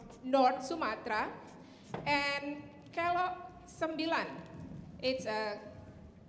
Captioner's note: speaking in Indonesian